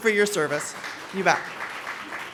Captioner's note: applause